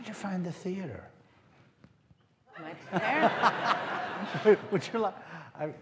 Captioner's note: laughter